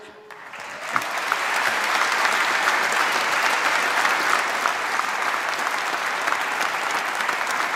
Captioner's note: applause